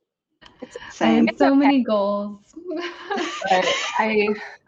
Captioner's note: laughs